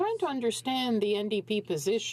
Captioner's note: speaking in french